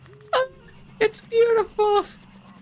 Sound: dying from laughter

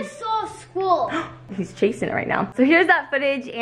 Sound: gasps

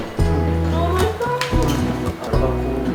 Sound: slurp slurp

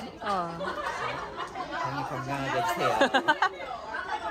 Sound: laughing

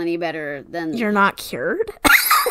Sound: sarcastically; laughs

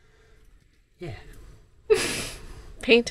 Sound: laughs

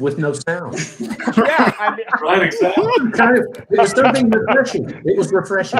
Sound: members laugh

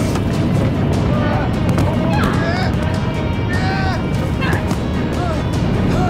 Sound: groaning

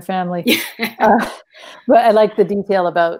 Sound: women laugh

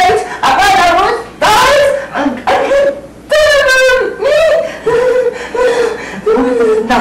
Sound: giggling

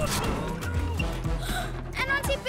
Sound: gasps

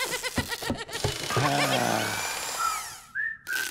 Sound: laughing; power tool noises; sighs

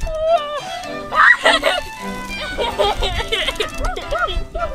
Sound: girl giggles

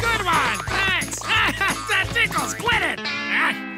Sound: laughing

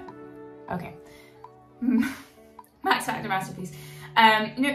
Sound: chuckles

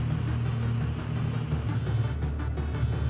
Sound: phone vibrates

